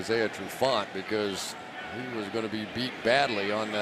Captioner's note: players shouting